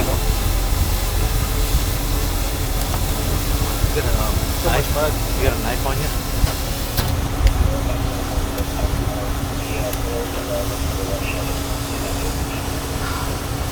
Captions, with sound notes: (ominous instrumental music continues) - You got a knife, bud? Have you got a knife on you? (mud splatting)